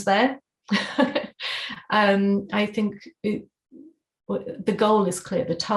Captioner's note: laughter